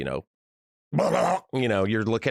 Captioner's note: makes gargling noises